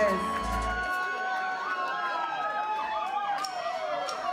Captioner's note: cheering